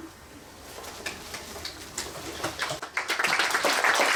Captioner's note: applause